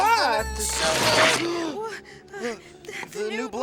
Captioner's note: rips